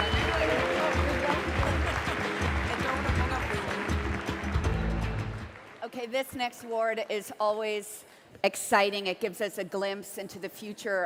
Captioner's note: cheering and Applause